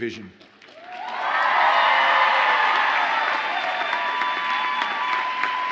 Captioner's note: audience applauds and cheers